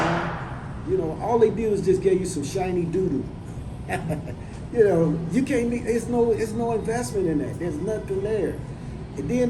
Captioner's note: laughs